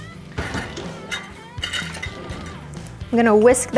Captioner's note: drawer rattles